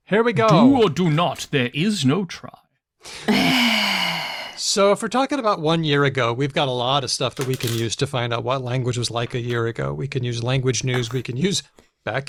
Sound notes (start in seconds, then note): 3.4 laughs